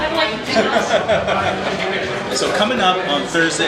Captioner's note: both laugh